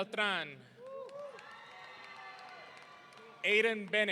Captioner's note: audience cheering